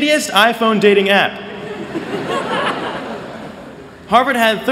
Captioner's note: laughter